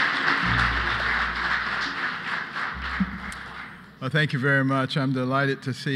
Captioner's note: applause